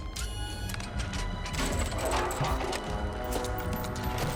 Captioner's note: robot whirring; suspenseful music